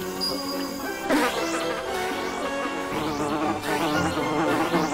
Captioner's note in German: lautes Summen